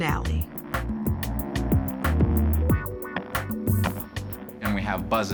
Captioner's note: buzzing